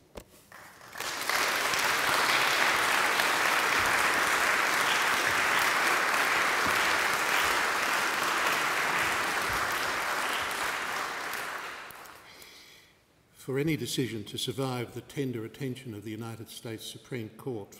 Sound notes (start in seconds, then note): 0.4 applause